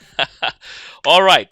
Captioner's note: laughs